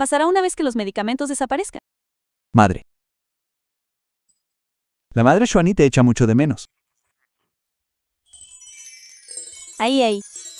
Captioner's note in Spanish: campana